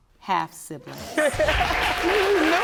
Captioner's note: audience cheering